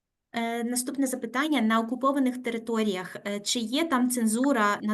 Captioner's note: speaking Ukrainian